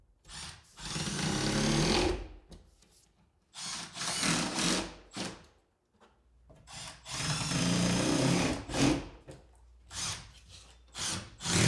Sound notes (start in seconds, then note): 0.9 drill whirring; 6.7 drill whirring